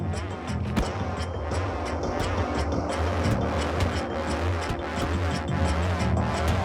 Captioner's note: tense music; bat whacking